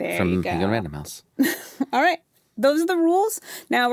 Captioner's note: chuckles